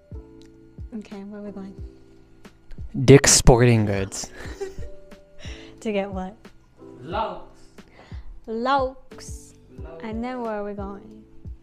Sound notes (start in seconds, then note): 4.2 laugh